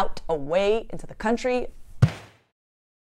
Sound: thud

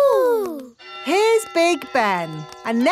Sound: clock chimes

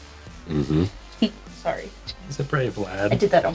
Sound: laughs

